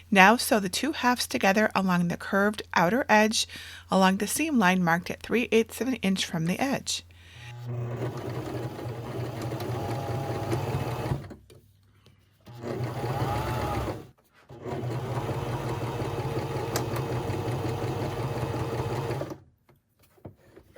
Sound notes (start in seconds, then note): 7.4 sewing machine whirring